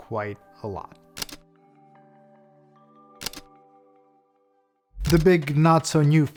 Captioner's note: camera shutter clicks